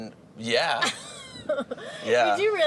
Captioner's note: stammers; laughs